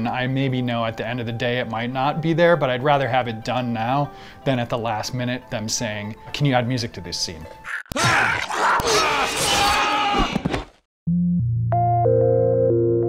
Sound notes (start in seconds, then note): 7.6 animal squealing; 7.6 grunting; 11.1 slow synth music